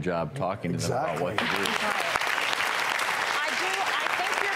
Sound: audience applauding

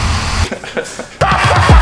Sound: laughing

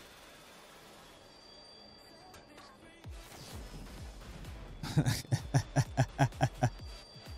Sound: laughs

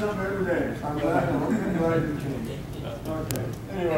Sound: audience laughing

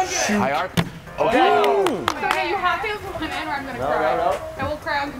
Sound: applause

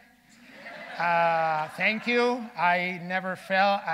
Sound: audience laughing

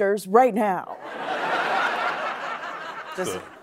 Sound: laughter

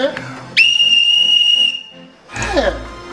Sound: blows whistle

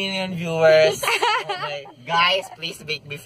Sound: laughs

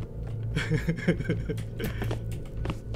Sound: evil laugh

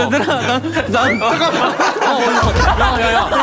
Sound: stumbling

